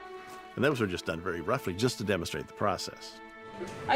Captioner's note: none